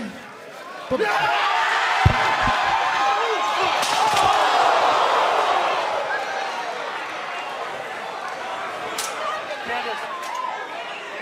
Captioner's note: cheers and applause